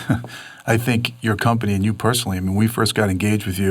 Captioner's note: laughs